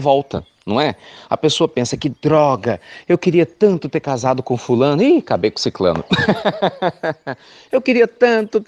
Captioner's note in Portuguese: Risos